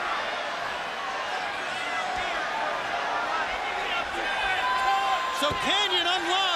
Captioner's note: crowd chatter